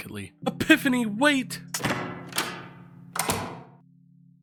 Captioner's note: door opens and closes